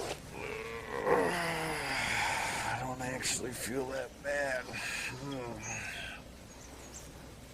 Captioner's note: groans